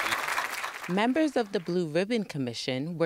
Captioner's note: applause